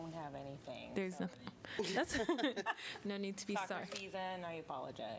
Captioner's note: laughter